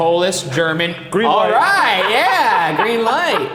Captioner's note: laughing